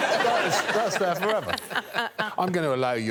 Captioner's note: all laughing